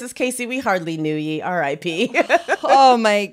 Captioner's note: laughs